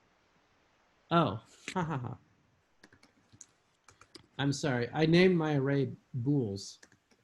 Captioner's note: laughs